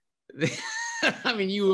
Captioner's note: laughing